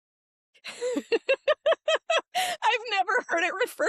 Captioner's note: laughing